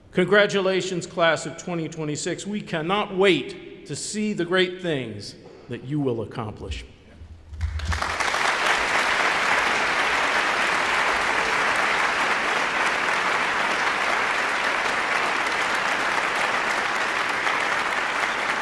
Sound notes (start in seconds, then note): 7.6 audience applauding